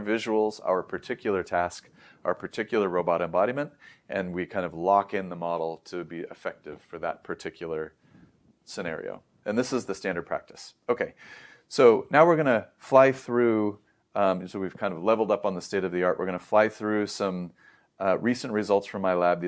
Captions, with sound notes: visuals, our particular task, our particular robot embodiment, and we kind of lock in the model to be effective for that particular scenario. And this is the standard practice. Okay, [inhales] so now we're going to fly through, and so we've kind of leveled up on the state of the art, we're going to fly through, some, uhm, recent results from my lab.